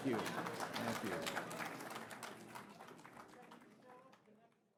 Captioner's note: audience clapping